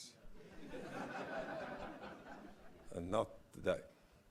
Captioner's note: laugh